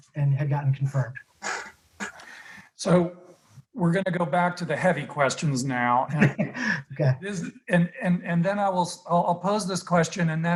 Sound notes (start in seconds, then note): 5.7 chuckles